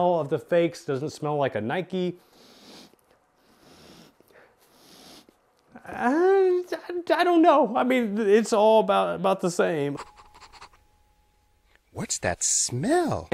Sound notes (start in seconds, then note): 3.4 sniffs deeply; 10.4 sniffing deeply